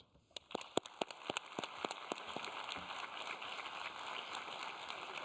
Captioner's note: applause